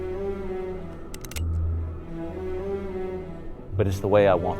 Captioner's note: gun clacking